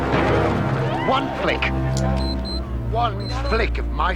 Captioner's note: people gasp; suspenseful music; bomb beeping